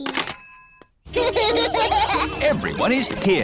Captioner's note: children laughing